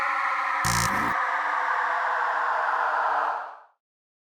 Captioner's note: suspenseful music; logo buzzing